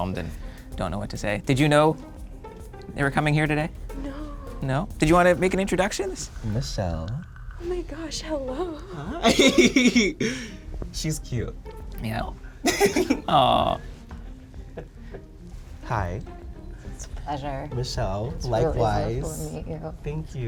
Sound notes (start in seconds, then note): 8.8 laughs